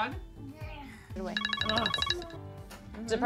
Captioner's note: cell phone rings